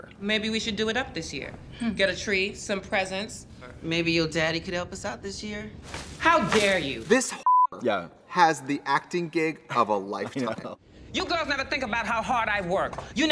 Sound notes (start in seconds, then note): 7.4 beep; 9.8 laughs